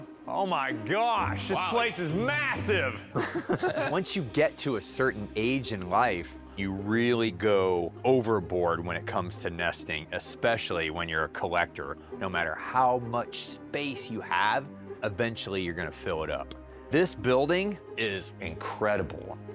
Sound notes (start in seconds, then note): 2.7 laughs